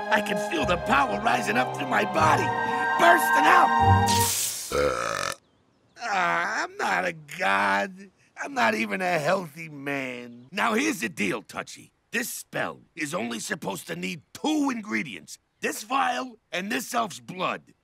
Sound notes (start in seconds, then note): 4.0 gem hisses; 4.7 king belches loudly